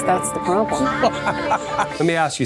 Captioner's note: laughing